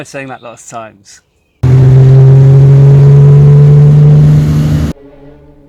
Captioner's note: car engine